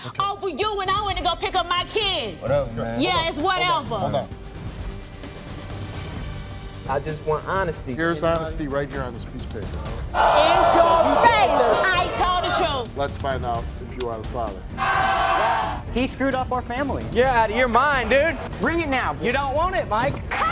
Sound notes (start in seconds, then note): 4.2 suspenseful music; 14.8 audience jeering